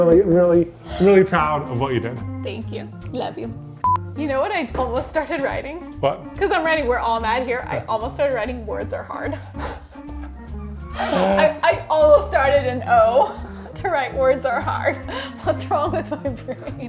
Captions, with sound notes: I'm really, really, really proud of what you did. Thank you. Love you. (screen beeps) You know what I almost started writing? What? 'Cause I'm writing, "We're all mad here," I almost started writing "Words are hard." I almost started an O to write "Words are hard." What's wrong with my brain?